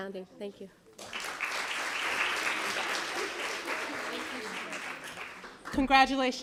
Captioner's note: applause